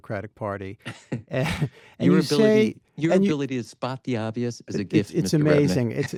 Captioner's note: laughs